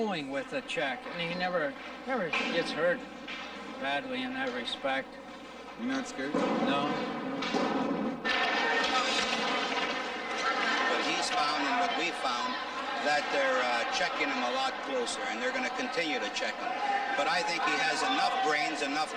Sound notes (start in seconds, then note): 10.3 audience cheering; 10.3 skates scraping